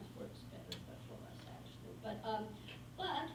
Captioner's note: faintly speaking